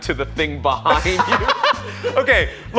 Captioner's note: reviewer laughs